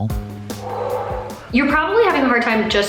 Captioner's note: SpongeBob Voice; gasping